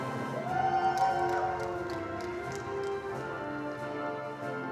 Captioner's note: attendees applauding